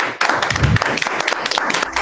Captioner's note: applause